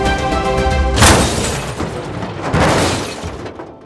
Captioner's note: loud crash